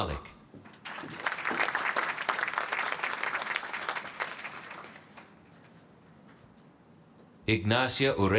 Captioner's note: applause